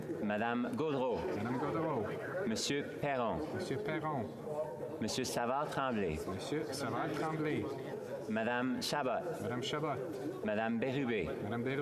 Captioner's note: calling of recorded vote